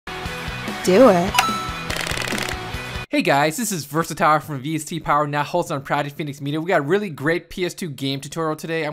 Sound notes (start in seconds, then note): 0.1 upbeat rock music; 1.3 coin dinging; 1.9 typewriter keys clicking